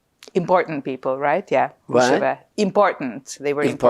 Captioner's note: yiddish